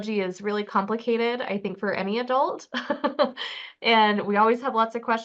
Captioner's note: chuckles